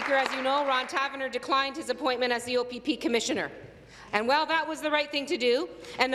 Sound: applause

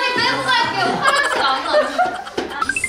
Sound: hahaha

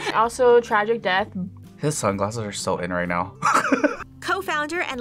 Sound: laughs

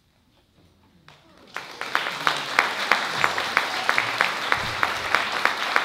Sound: applause

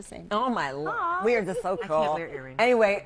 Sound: laughter

